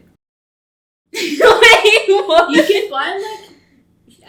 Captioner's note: laughs; giggles